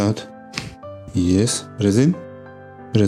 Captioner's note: crunches of bones